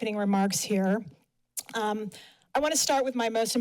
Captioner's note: smacks lips